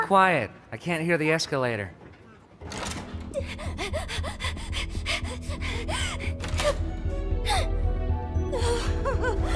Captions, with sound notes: Be quiet. I can't hear the escalator. [ Panting ] [ Gasps, whimpers ]